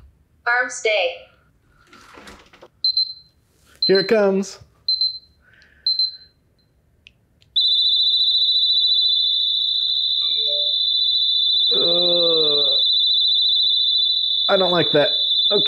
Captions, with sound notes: Arm stay. BEEP BEEP Here it comes! BEEP BEEP BEEP BEEP (Siren goes off) I don't like that. Okay.